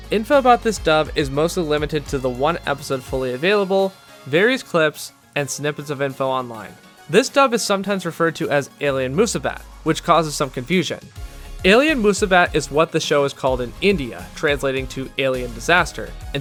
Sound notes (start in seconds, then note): none